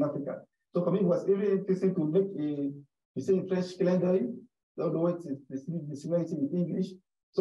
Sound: speaks French

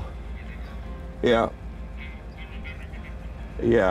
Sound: voice on phone

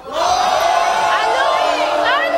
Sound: audience groaning

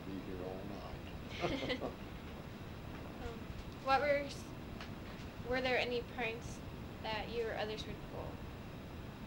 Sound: laughter

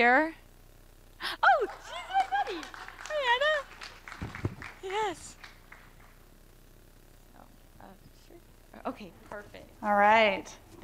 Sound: applause

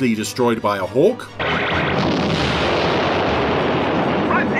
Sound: loud explosion

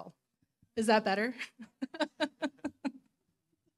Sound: laughing

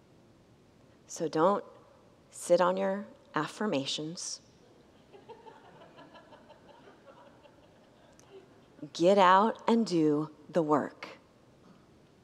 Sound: congregants laugh

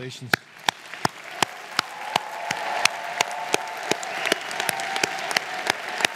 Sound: audience applauding

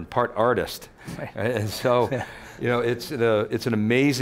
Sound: laughs

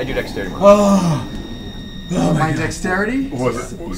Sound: groans

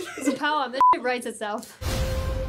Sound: laughs; beep

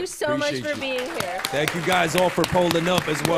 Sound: applause

